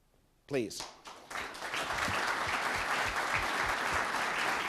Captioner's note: audience applauds